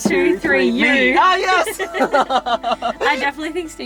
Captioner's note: laughing